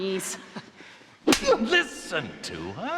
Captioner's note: hand slapping